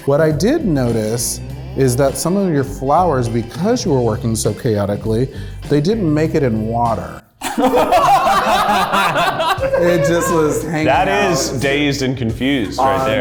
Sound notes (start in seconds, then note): 7.4 group laughs